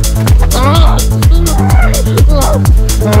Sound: grunting

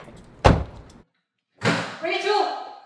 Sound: car door slams

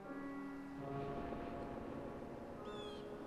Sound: shuddering electronic accent; distant birds cawing over haunting, expressive piano

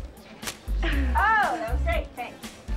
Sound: camera shutter clicks

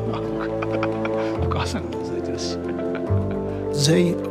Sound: laughs

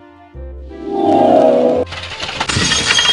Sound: long swoosh; creaking; plate smash

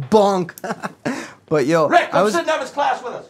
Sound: laughs

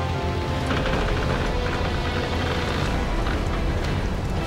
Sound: wood creaking

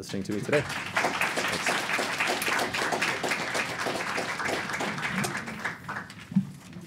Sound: applause

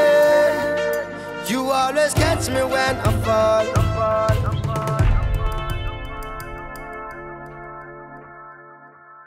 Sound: echo

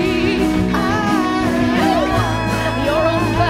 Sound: yelling

